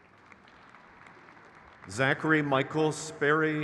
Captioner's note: crowd cheers